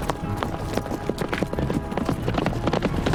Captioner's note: wagon moving